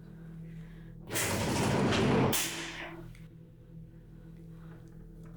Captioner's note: killer banging objects